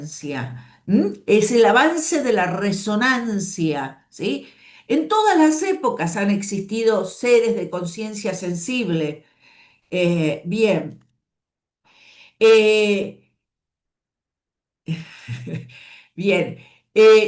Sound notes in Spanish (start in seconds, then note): 14.9 risas